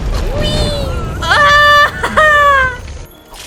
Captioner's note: screes in free-fall